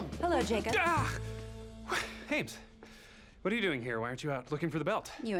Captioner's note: yells